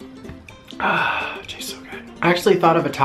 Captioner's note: exhales